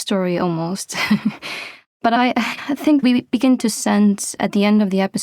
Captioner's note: chuckles